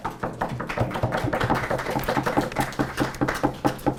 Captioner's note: applause